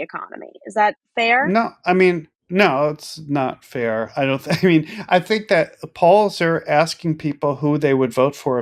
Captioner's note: laugh